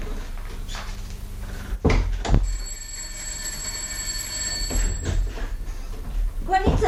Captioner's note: the doorbell rings